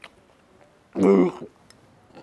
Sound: Mohit burps

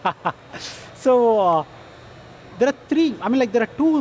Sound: laughter

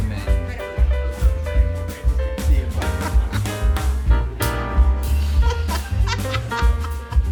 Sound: upbeat music; board members laughing

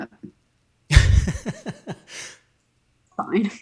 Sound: man laughing

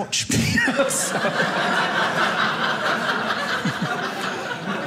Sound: audience laughing

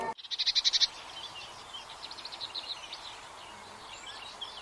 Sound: birds tweeting

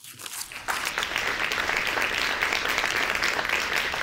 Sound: audience claps

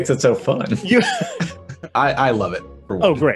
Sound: laughs

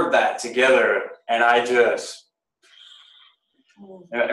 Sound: seething sigh

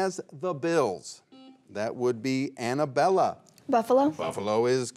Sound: buzzer beeps once

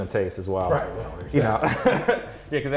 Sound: laughs

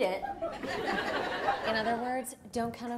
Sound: audience laughs

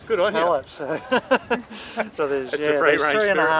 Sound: laughing

